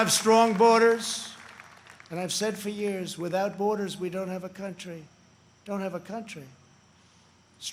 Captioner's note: applause